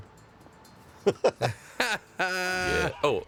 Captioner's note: laughs